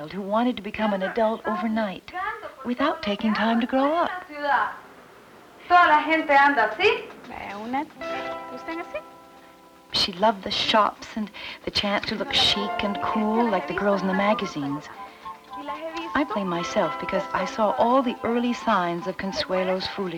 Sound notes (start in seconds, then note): 4.2 speaking Spanish